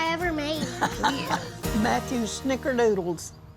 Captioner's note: grandma laughs